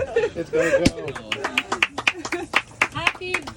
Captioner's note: clapping